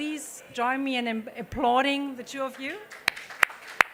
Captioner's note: applause